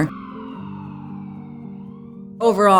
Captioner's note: sirens wailing